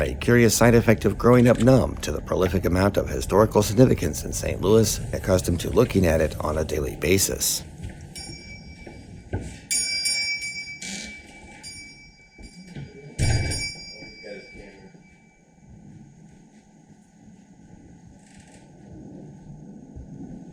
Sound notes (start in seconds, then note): 9.6 100-year-old-like non-electronic shop front door bell sounds